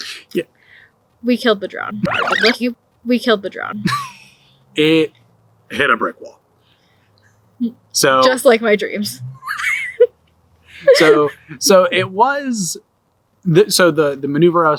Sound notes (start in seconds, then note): 1.9 reverse noise